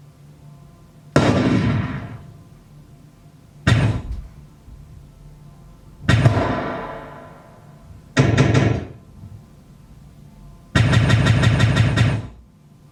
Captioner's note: gunshots